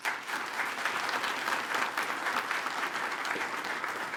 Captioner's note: attendees applaud